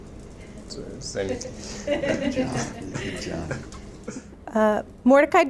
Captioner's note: audience laughing